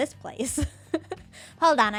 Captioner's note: laughs